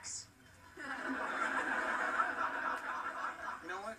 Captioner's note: canned generic laughter